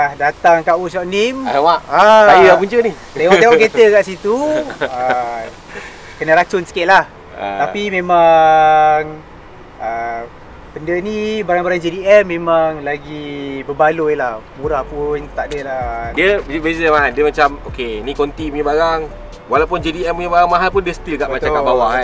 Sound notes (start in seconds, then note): 4.3 haha